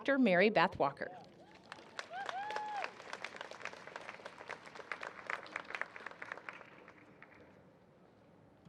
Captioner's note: applause